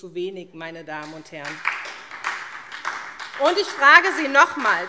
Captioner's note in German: Beifall SPD